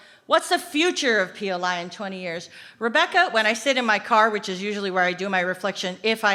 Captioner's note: none